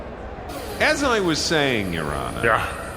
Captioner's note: door slams on Phenom Pennyworth; laser sound effect